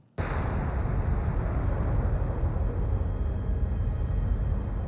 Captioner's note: explosion